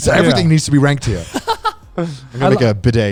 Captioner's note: laughs